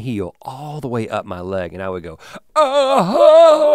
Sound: groans

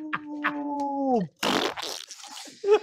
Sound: laughing; splat noise

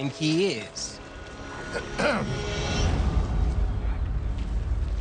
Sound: clears throat

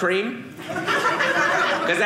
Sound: audience laughing

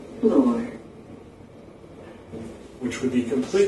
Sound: electronic elevator voice

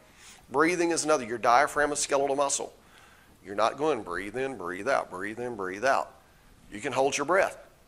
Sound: breathe

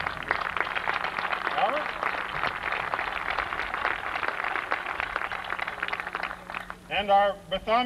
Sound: applause

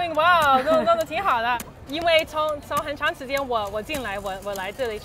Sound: speaking in foreign language

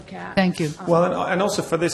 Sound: voiceover

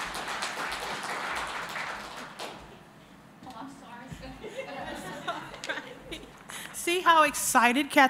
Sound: applause

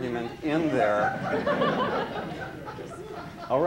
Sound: laughter

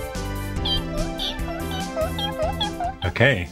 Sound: upbeat music; squeaking

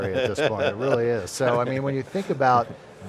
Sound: laughing

